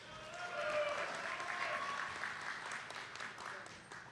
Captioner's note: attendees clapping